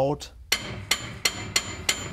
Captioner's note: knocking